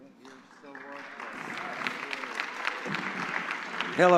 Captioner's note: applause